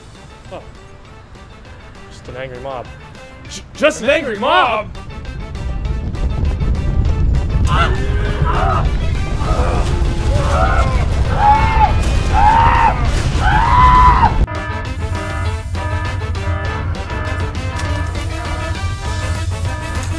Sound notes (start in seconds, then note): 8.2 screams; 14.4 alarm blares